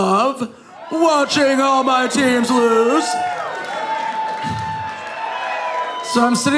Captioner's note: audience cheering